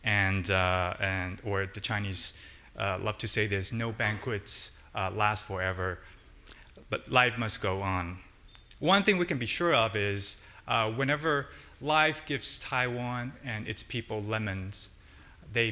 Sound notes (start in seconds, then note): none